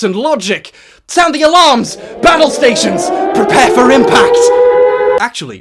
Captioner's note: air raid sirens; alarms stop